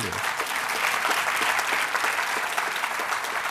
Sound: applause

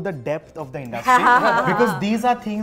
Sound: laughter

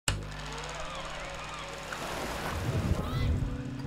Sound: camera film rolling; seagulls squawking; light guitar music; kid shouting

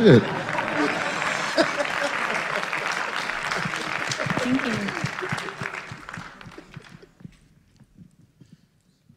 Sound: laughter

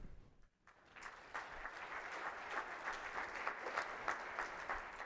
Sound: participants clapping

